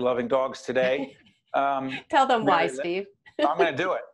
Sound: laughing

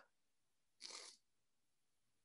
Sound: sniff

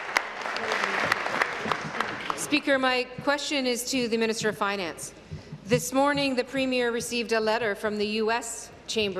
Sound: applause

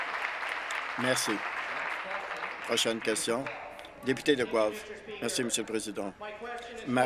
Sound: some Applause

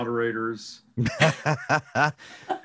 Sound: laughing

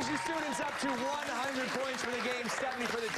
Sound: cheers and applause

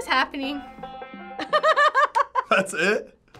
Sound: laughing

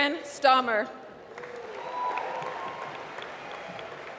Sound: applause

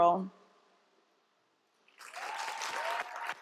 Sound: applause

